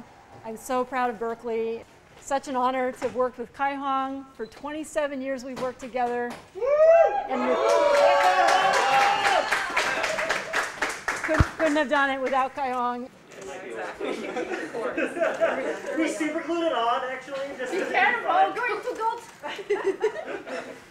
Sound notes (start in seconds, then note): 7.6 applause; 13.4 chatter